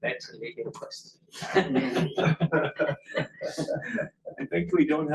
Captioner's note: laughter